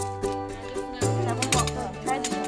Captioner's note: metal clicks